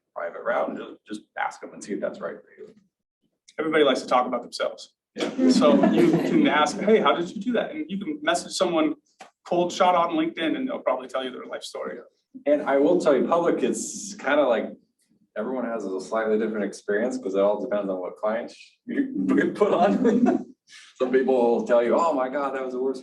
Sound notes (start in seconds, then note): 5.2 audience laughter